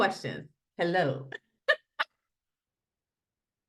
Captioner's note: laughs